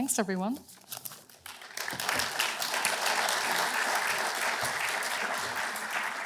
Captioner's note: applause